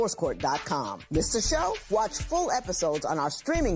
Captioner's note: none